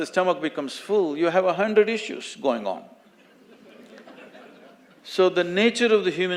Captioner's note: few laugh